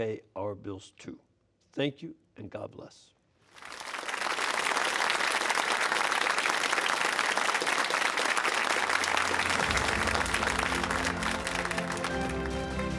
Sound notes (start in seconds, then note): 6.2 applause